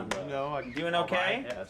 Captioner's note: boyband member muttering